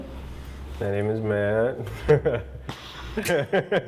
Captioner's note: laughs